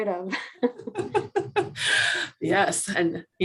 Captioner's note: laughing